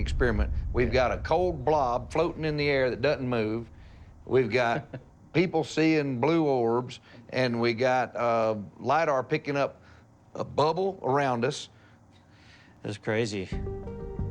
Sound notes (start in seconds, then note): 4.5 chuckles